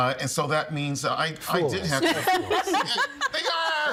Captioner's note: all laughing